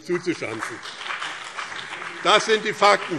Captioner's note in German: Beifall BÜNDNIS 90/DIE GRÜNEN und vereinzelt CDU